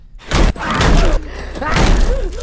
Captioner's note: screaming